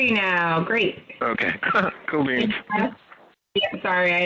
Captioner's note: chuckles